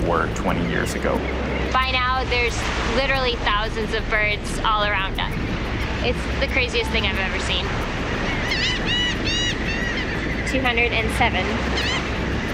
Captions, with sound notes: 20 years ago. By now, there's literally thousands of birds all around us. It's the craziest thing I've ever seen. (birds squawking) 207